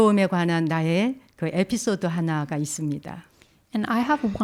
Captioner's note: speaking in Korean